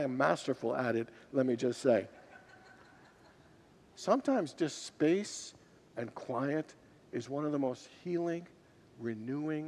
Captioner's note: congregants laugh